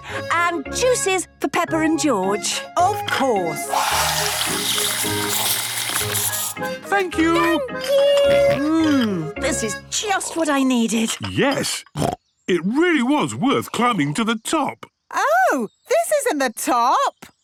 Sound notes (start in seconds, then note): 8.2 snorts; 11.9 snorts